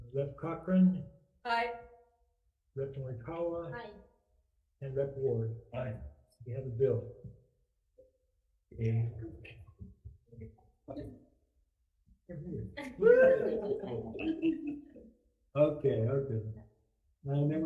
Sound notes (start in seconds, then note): 12.8 committee cheering